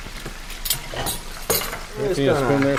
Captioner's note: utensils clink